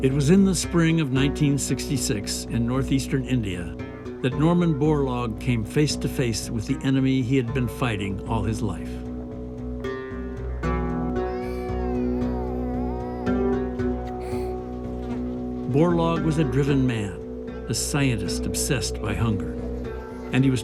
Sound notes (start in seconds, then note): 10.9 children crying; 14.8 flies buzzing